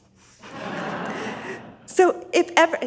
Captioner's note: audience laughs